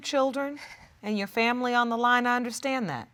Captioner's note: sniffling